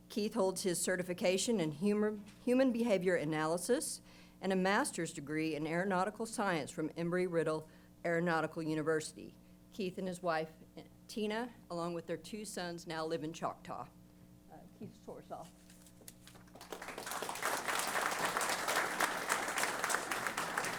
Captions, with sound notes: Keith holds his certification in Human Behavior Analysis and a master's degree in aeronautical science from Embry-Riddle Aeronautical University. Keith and his wife Tina along with their two sons now live in Choctaw. Keith Sorsaw. [APPLAUSE]